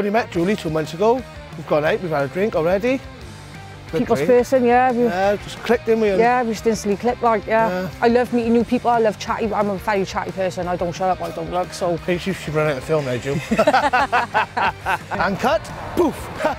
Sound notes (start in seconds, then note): 13.3 both laugh